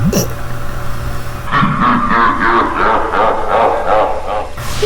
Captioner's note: evil_Laugh.wav